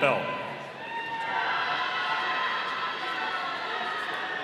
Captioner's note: audience cheering